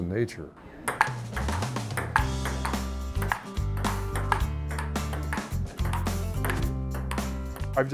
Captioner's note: ping pong ball bounces